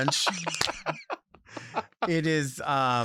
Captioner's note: laughs